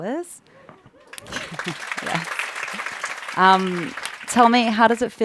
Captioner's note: audience applauding